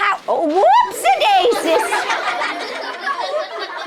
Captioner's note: laughing